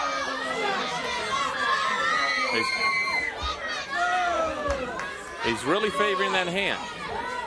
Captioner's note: crowd chatter